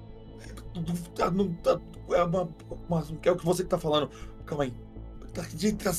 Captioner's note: stuttering